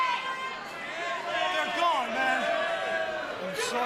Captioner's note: crowd chatter